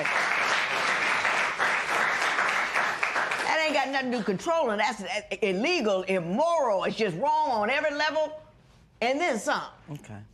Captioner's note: applause